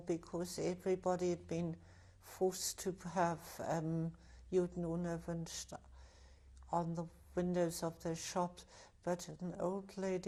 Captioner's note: german